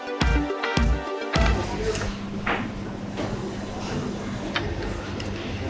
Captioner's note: people faintly chattering